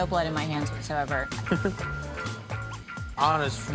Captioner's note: laughs